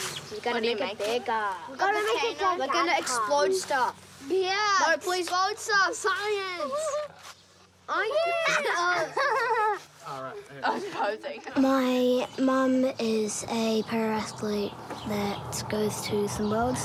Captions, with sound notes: We're gonna make it bigger. We're gonna explode stuff. Yeah! Explode stuff! Science! (LAUGHTER, INDISTINCT CHATTER) My mum is a para-athlete that goes to some Worlds sometimes.